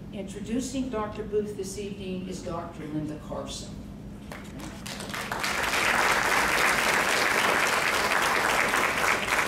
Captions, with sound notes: Introducing Dr. Booth this evening is Dr. Linda Carson. (crowd clapping)